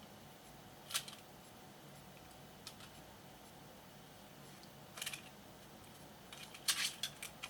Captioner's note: plastic clicks